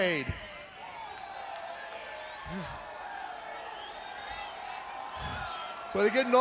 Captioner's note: crowd cheering